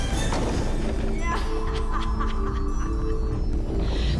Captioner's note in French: rire maléfique